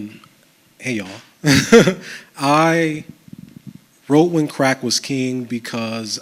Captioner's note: chuckles